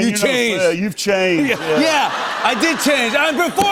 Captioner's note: laughter